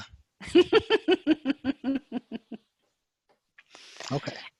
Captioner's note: chuckling